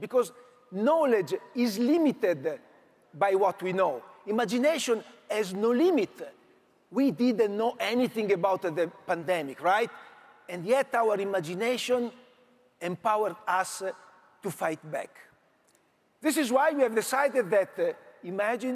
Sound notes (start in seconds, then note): none